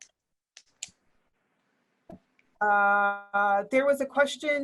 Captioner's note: keyboard typing